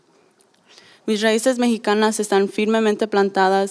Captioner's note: speaking spanish